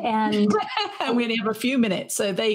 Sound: laughs

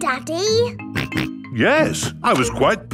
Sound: snorts

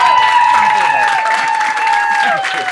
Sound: applause and cheers

